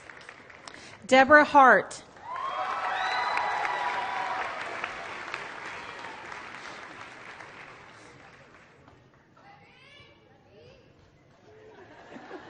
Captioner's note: applause